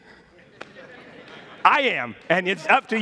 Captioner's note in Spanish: congregación se ríe